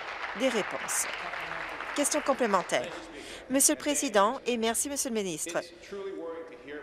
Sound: applause

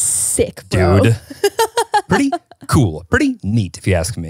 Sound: laughing

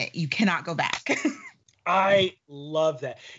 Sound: laughing

